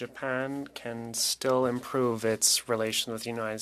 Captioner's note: speaking French